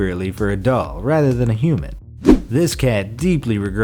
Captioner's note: air whooshes